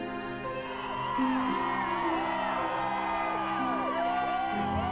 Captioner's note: students cheer